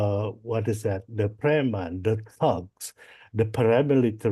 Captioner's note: foreign language